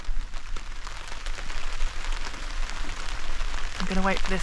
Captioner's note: rain